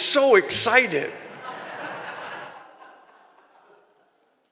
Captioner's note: laughter